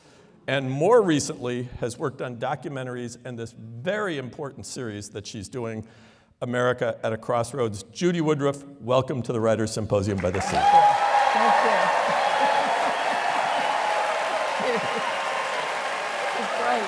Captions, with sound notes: and more recently, has worked on documentaries and this very important series that she's doing America at a Crossroads. Judy Woodruff, welcome to the Writer's Symposium by the Sea. [APPLAUSE] Thank you. [LAUGHTER] Great. [LAUGHTER] [APPLAUSE]